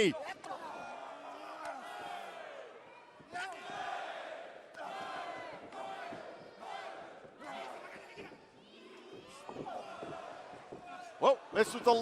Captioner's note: crowd cheering